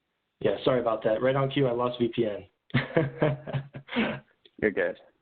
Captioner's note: laughter